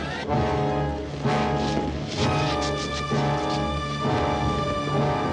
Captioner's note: none